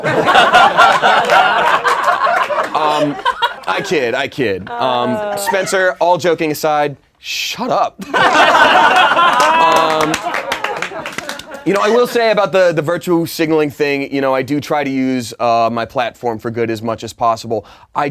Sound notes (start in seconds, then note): 0.0 laughing; 8.0 laughing